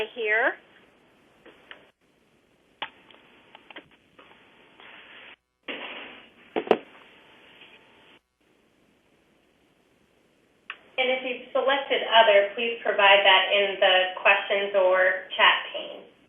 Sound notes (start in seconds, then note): 0.7 pause